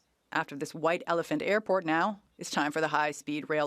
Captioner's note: speaking French